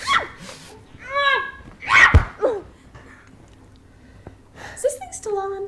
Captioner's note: Jessie screams